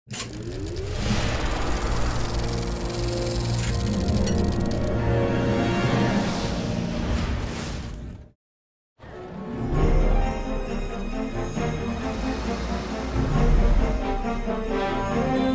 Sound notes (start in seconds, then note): 0.9 film reel ticking; 2.3 light dramatic music; 9.2 bright festive music; 9.9 bells jingling; 11.2 traffic humming